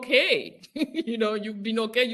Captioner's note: laughs